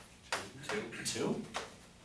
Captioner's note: voiceover